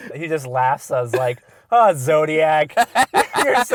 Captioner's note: voiceover